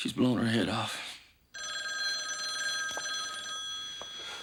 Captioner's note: telephone ringing